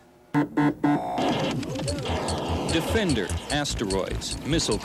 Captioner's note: digital beeps